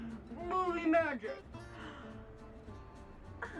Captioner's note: disney gasp